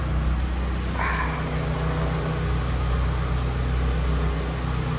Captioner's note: engine revving